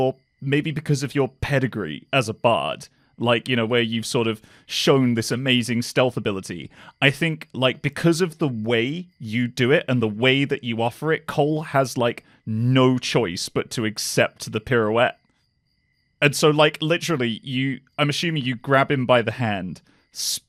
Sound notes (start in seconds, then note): none